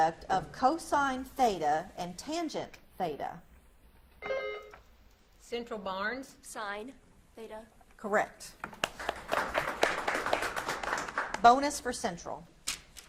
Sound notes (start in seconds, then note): 4.2 buzzer beeps; 8.6 audience claps